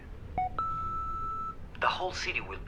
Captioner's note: answer machine beeping